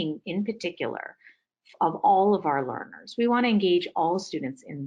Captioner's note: none